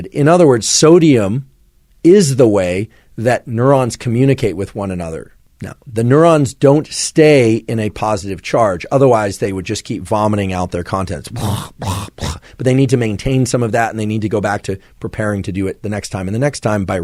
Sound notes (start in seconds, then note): 11.3 imitates vomiting